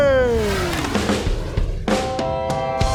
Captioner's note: swoosh